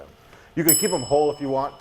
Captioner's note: bell dings